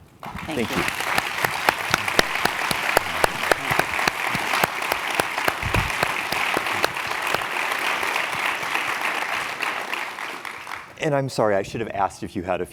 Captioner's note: applause